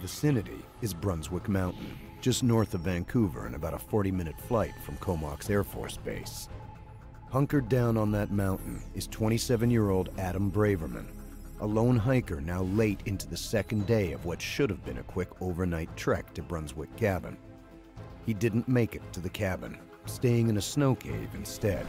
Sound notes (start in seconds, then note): 10.1 voiceover